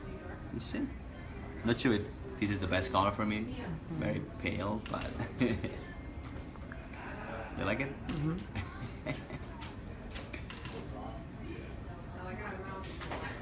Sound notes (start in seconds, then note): 5.1 chuckling; 8.2 chuckling